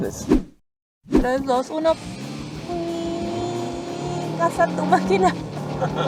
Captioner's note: engine revving; laughter